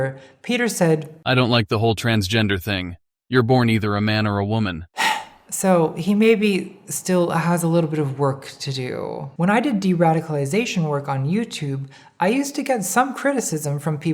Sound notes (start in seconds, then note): 4.9 sighing